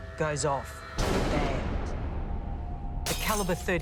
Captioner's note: loud bang